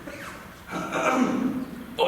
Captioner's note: clears throat